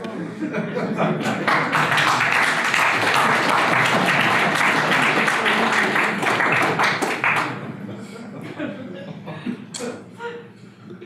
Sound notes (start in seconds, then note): 1.2 audience applause; 7.3 audience laughter